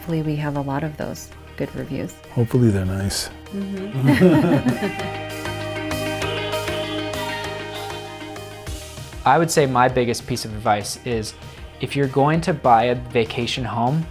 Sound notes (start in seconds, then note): 3.8 people laughing; 5.5 upbeat music